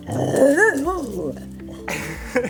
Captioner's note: grunting; laughing